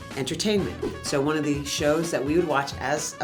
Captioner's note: air whooshing